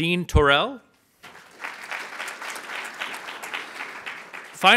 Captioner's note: audience applauds as turns and waves to the audience behind her